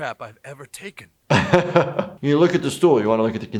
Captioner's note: laughs